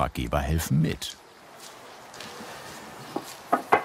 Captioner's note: distant birdsong